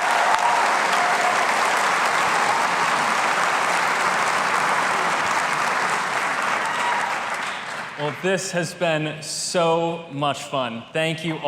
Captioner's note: applause